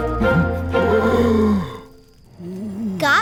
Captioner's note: gasps; voiceover